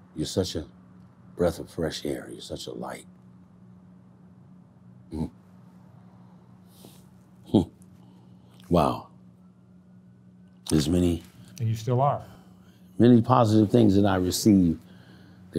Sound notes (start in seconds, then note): 7.5 sighs